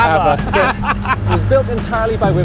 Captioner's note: laughs